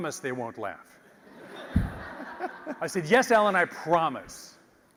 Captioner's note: laugh